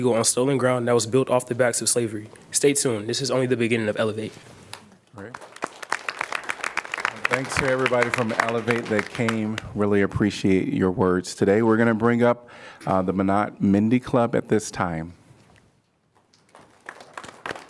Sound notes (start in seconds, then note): 5.1 applause